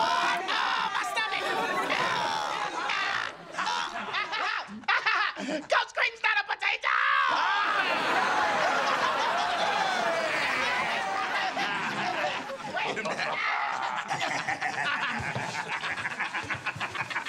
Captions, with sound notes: Oh, my stomach! [groaning] Coach Kreeton's not a potato! [laughing] [laughing]